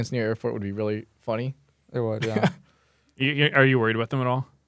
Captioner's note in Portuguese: risos